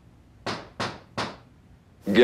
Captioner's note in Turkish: Kapıya vurma sesi